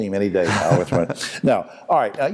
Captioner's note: laughs